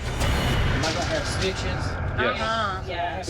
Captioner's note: none